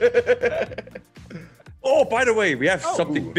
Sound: laugh

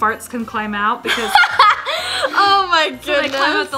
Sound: laughs

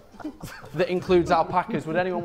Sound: Sidemen laughing

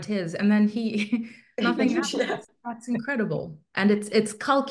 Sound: chuckles

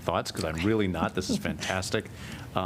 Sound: laughter

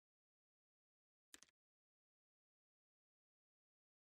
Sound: click

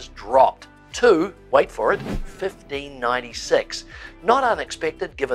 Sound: air whooshing

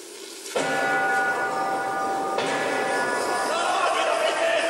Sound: big bells sounds

